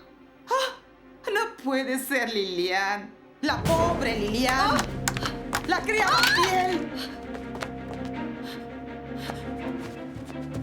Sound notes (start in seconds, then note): 8.1 scuffling